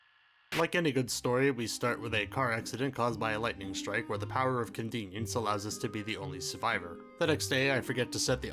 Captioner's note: krrrt